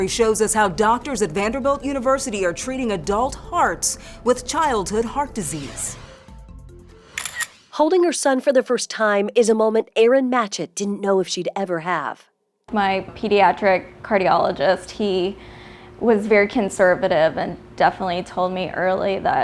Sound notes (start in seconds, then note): 5.2 graphics swishing; 7.1 camera clicking